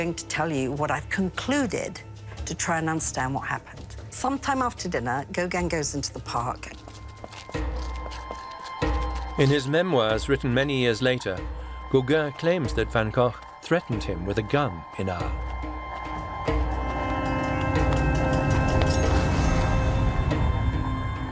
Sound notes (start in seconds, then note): 6.2 footsteps sound; 7.1 tense music; 18.9 sound of knife being drawn